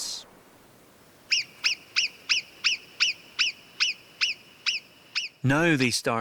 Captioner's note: marmot calls